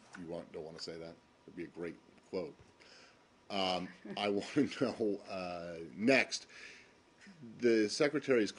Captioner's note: laughter